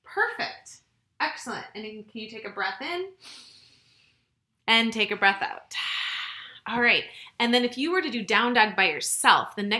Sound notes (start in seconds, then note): 3.2 inhales; 6.1 exhales